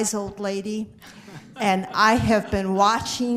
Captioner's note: group laughter